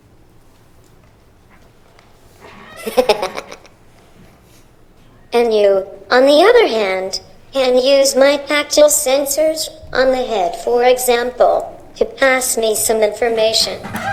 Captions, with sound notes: (laughing) And you, on the other hand can use my tactile sensors, on the head for example, to pass me some information.